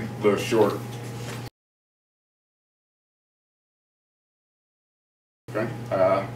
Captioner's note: silence